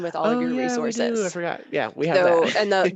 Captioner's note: chuckles